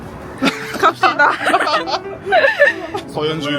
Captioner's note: laughter